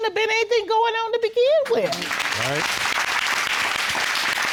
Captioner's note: applause